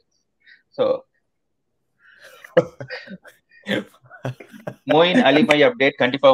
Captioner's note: laughs